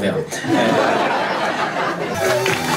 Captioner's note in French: rires public